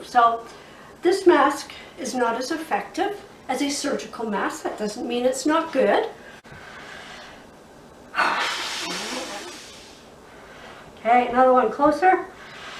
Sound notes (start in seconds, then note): 8.2 blows air forcefully